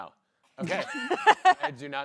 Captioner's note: laughs